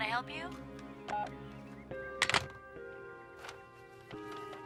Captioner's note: phone beeping; soft mysterious music continues